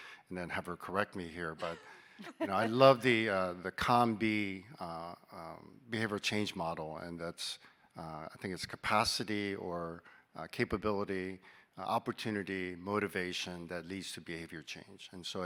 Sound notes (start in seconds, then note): 1.6 laughing